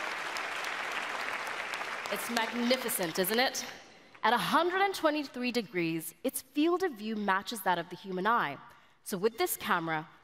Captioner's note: applause